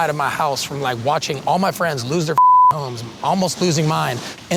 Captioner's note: beep